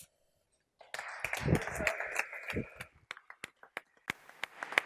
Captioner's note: applause